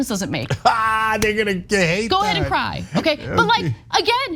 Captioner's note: laugh